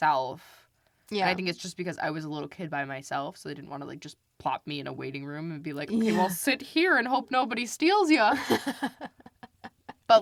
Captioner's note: laughs